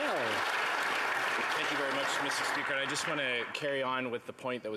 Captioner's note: applause